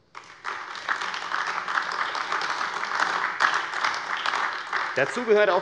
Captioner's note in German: Beifall AfD